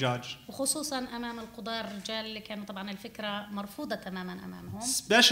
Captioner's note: speaking arabic